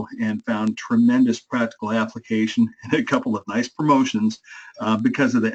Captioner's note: laugh